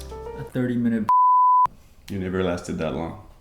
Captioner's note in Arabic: بيب